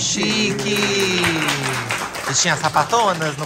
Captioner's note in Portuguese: palmas